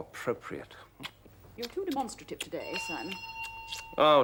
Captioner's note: the front door bell rings